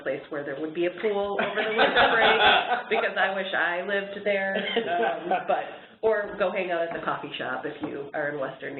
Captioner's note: chuckles